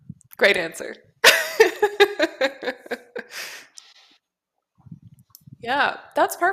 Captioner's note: laughter